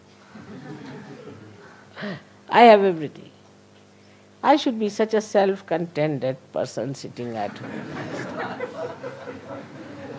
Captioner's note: laughter